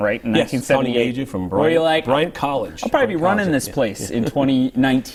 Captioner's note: laughter